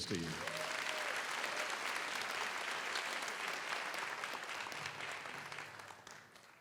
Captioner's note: audience applauds; audience cheers